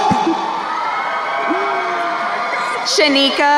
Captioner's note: crowd cheering